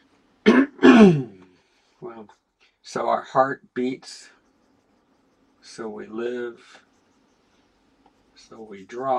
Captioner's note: silence